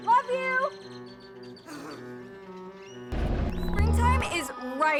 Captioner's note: birds chirp; peaceful violin music